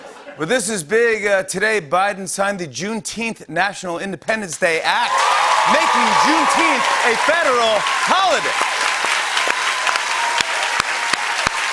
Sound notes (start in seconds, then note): 4.9 cheers and applause; 8.8 applause